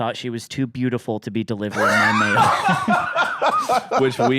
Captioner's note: laughs